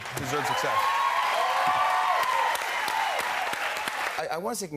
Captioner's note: cheers and applause